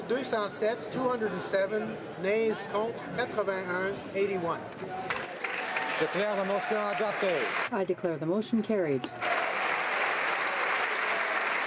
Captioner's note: applause